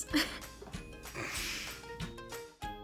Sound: laughs; upbeat music

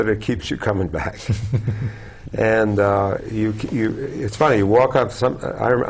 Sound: laugh

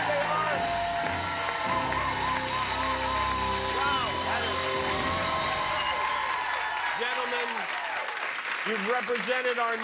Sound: cheers and applause

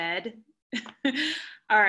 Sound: laughter

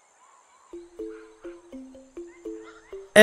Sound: birds chirping

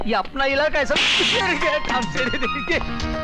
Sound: slap

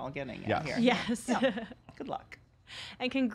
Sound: laughing

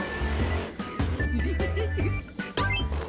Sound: giggling

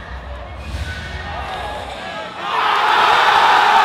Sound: cheering

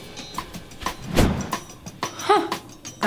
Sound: sighs; air whooshing

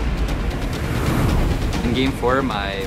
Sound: air swooshing

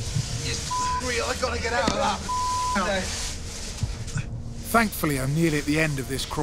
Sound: beep

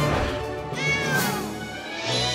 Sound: meowing

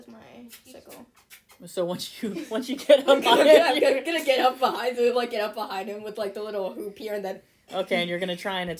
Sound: laughter

